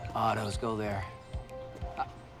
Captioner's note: laughs